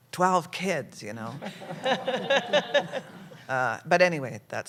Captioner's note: laughter